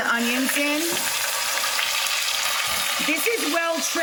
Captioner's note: pan sizzling